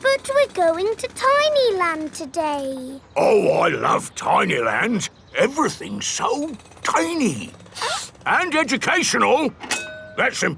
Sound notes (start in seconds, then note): 7.7 sniffs